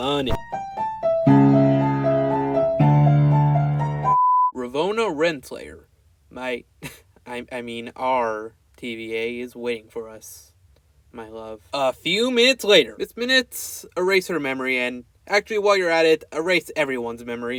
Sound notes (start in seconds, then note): 6.7 clears throat